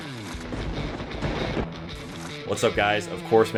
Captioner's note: upbeat rock music; lightning strike sound